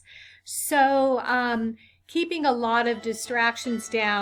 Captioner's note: cellphone ringing